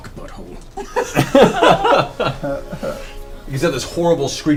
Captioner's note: all laugh